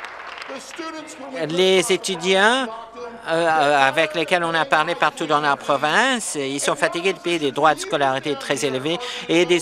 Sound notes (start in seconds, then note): 0.0 applause